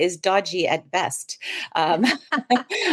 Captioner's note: both laughs